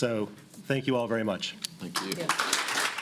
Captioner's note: applause